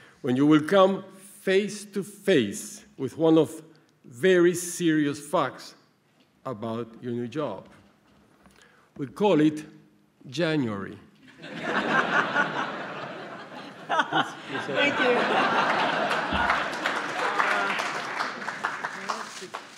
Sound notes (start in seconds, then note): 11.3 laughter; 17.0 applause